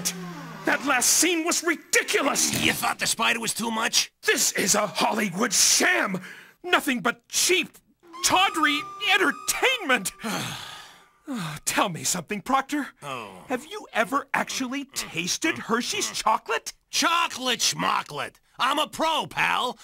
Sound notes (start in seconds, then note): 10.1 narrator Sighs; 13.0 Proctor Sighs